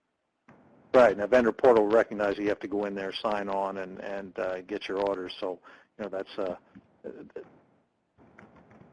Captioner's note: pounding static